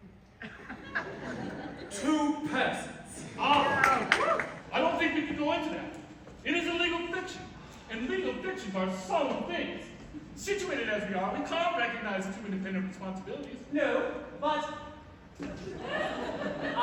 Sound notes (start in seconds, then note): 0.3 laughter; 3.3 laughter, cheers; 15.5 laughter